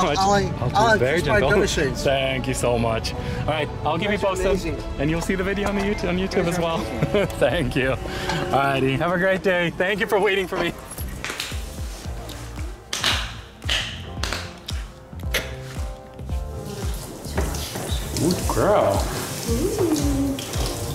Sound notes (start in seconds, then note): 6.7 laughter; 11.3 claps; 18.6 running water